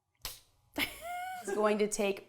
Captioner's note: laughs